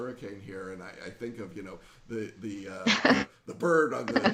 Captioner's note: laughing